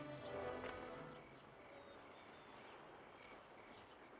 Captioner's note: birds chirping